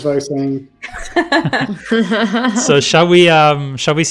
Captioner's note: laughter